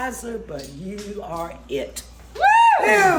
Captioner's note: cheering